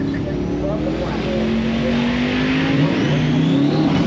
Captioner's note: engine revving